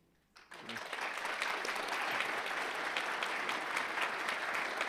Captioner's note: audience applauding